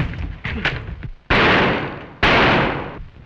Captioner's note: gunshots